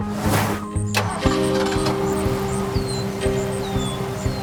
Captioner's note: birds chirping, engine starting